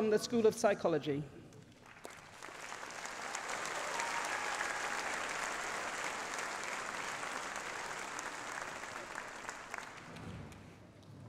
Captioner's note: applause